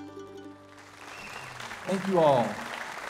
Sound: audience applauding

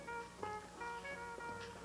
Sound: none

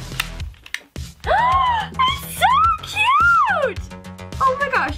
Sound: squeals

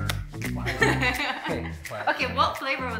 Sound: laughing

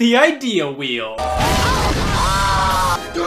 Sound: scott's house blows up

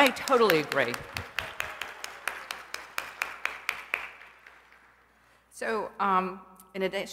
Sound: applause

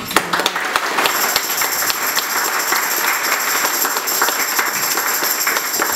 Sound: applause and tambourine jingling

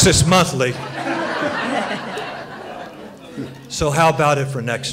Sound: laughter

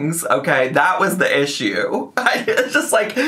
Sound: laughs

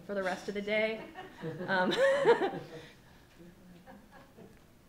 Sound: laughing

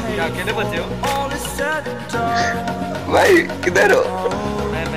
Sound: crying

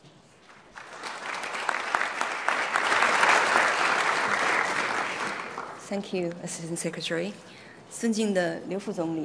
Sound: applause; speaking in Mandarin

